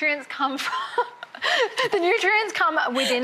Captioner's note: laughs